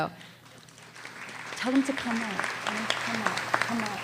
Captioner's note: applause